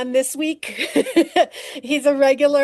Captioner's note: laughing